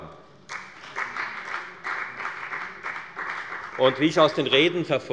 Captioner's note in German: Beifall bei der FDP